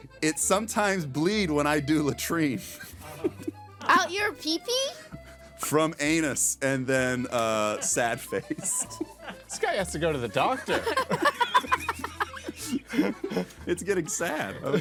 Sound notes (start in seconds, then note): 4.3 laughing; 7.6 laughing; 11.5 all laughing